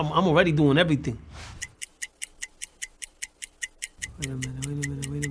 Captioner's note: ticking